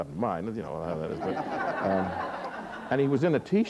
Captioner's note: laughter